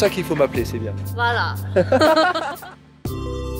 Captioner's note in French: rire